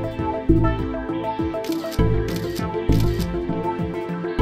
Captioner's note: camera snaps